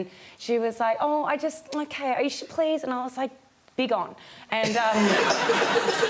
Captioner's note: audience laughs